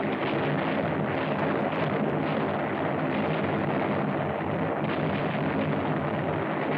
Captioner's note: explosions